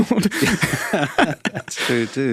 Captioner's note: both laughing